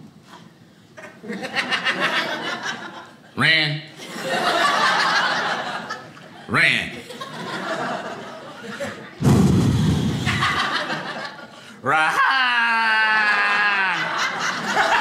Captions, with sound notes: (audience laughing) Rahn? Rahn? (sighs) Rahan?